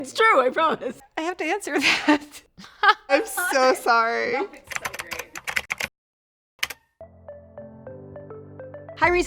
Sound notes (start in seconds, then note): 2.6 laughs loudly; 4.6 typing; 7.0 light upbeat music